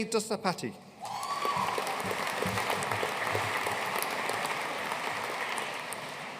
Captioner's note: audience cheering and applauding